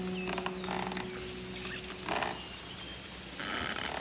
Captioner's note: rope creaks